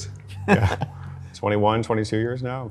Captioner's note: laughs